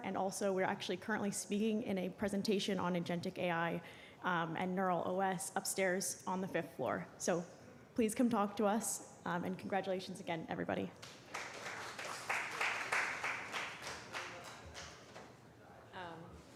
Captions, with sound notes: and also, we're actually currently speaking in a presentation on agentic AI and neural OS upstairs on the fifth floor. So please come talk to us, and congratulations again, everybody. [APPLAUSE]